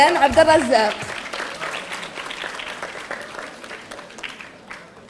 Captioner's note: audience applauding